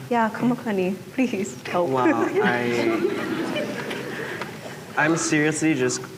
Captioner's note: laughter